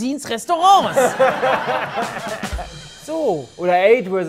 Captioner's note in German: Gelächter, Schlagzeugklänge